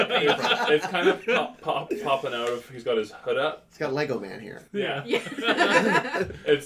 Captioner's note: laughter; laughter